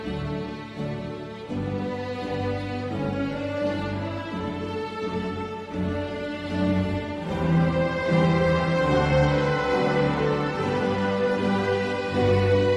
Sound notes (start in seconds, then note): none